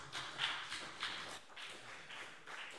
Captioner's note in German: Beifall CDU